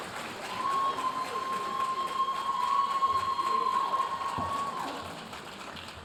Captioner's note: audience applauding